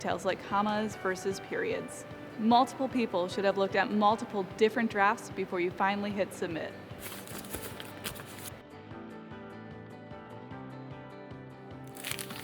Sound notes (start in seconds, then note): 7.0 paper rattling; 8.4 light music